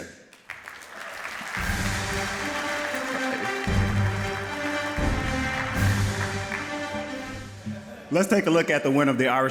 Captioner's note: applause